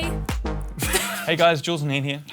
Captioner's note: laughs